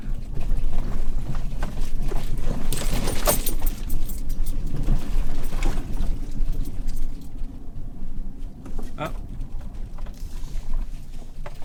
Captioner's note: rattling and road noise